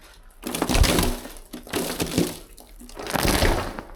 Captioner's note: rattle, splash